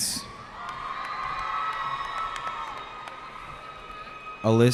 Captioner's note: cheering